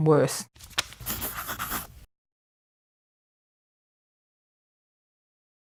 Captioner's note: pencil scratches